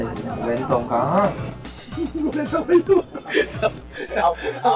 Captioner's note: laughing